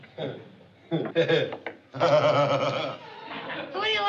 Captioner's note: laughs